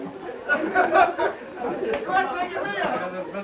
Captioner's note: laughter